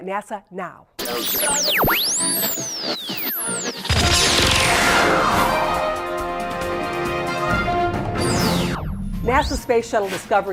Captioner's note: sound Effects